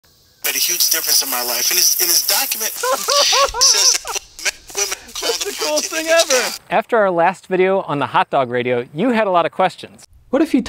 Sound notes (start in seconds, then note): 2.7 laughter